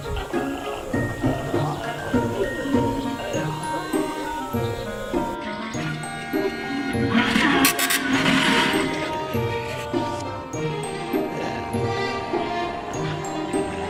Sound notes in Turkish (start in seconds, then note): 3.1 Şen bir müzik; 7.4 Kart basma makinesi tıklar; 11.1 Şen bir müzik